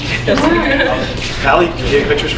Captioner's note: laughing